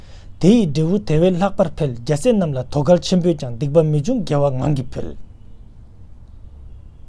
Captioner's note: tibetan